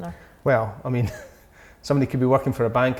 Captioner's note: laughing